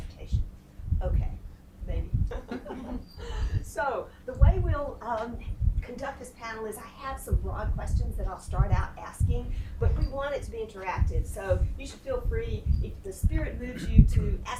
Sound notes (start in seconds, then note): 2.2 laughs